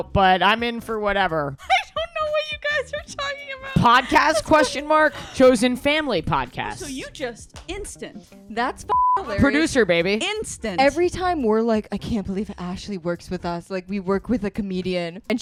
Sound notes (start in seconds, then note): 8.9 beep